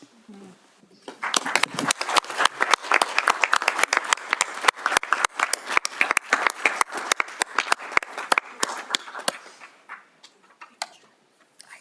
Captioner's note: applause